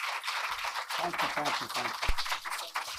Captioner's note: applause